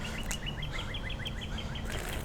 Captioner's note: birds chirp